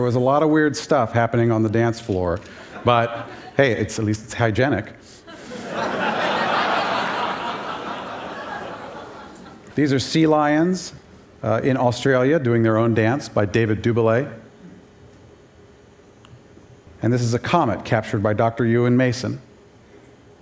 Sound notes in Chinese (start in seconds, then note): 5.3 Laughter; 5.3 笑聲